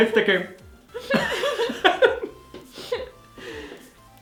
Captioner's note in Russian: Смех